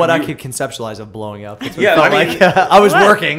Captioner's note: laughter